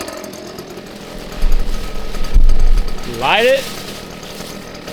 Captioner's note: engine Revving